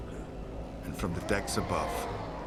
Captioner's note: pirates cheer